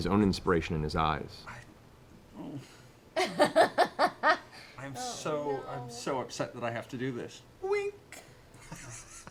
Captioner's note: whimpers